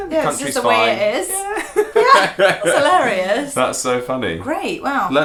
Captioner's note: laughter